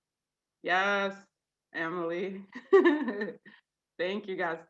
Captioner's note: laughs